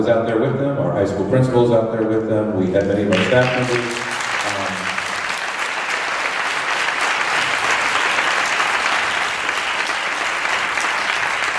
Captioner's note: applause